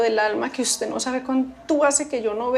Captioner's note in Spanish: none